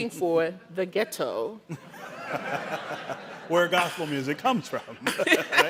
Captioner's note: audience laughing